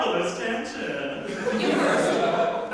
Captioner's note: audience laughter